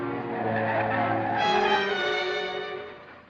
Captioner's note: brakes screeching